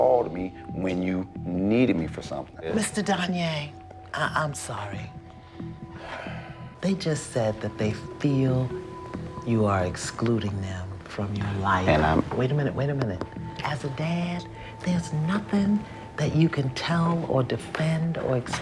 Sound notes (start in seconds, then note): 5.4 sighs